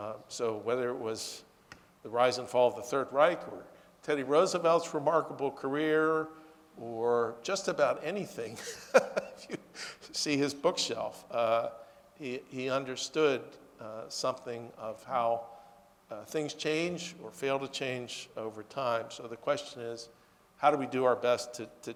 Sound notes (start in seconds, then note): 8.5 laughs